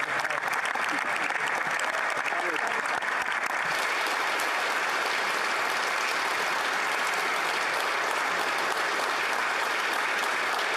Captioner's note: applause